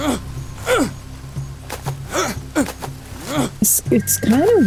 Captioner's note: grunting